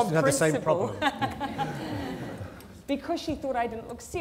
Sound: laughter

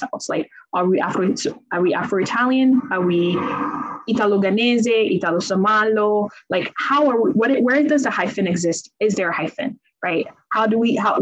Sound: speaks in Italian

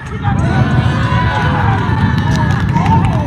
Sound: cheering

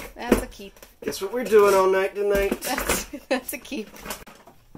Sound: laughing

